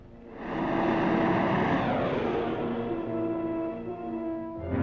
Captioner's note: vehicle whooshes